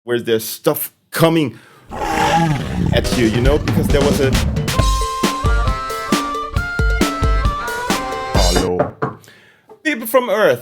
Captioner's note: roar